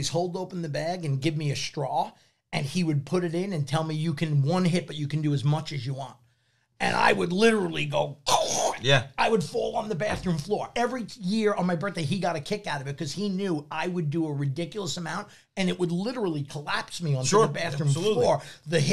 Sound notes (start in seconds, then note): 8.6 snorts